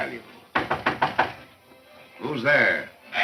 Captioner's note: knocking